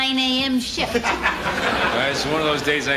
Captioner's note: laughing